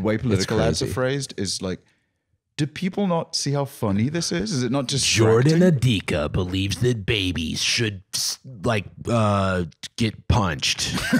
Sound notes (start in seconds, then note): 5.5 deep voice